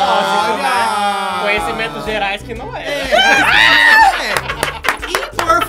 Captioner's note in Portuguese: risos